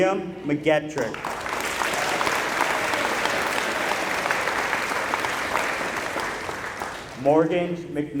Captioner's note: applause